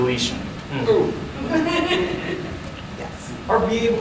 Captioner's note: audience giggling